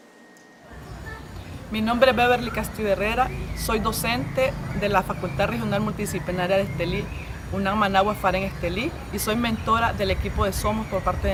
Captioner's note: speaking spanish